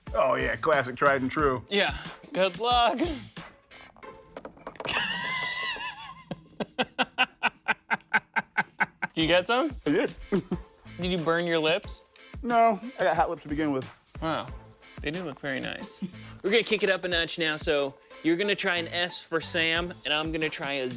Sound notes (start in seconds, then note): 4.8 laughs